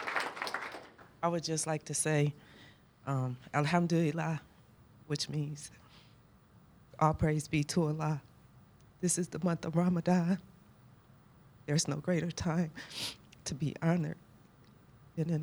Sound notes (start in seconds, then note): 4.1 speaking arabic